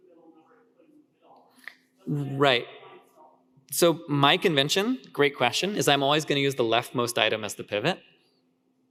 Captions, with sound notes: Right. (speaker speaks faintly) So my convention, great question, is I'm always gonna use the leftmost item as the pivot.